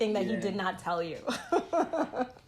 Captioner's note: laughter